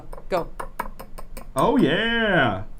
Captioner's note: bowl clinking